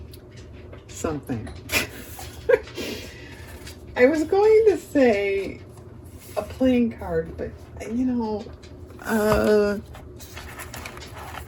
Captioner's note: laughter